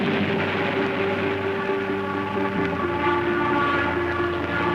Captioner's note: explosions booming; wind swooshing; horns blaring